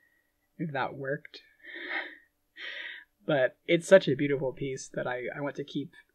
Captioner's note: laughing